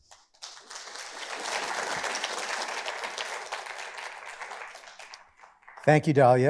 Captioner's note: audience applauds